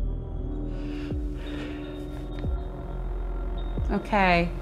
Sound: shaky breath

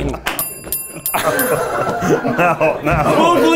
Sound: bell ringing

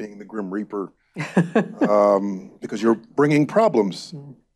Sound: laughs

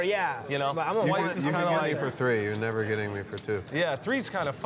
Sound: table chatter

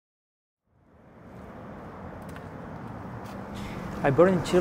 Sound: car engines humming; rocks lightly crunching

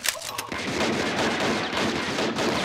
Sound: gunshots

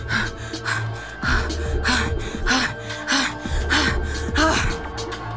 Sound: heavy breathing

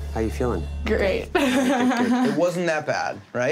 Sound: laughs

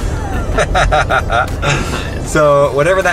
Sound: laughs

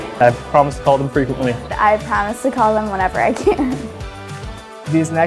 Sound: laughs

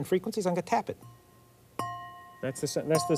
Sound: wine glass clanking

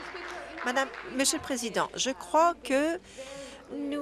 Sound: applause

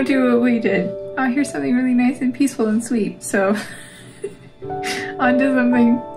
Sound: laugh

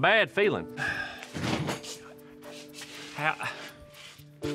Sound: sighs

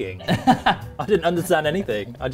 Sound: laughing

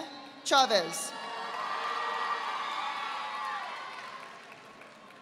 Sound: audience applauding

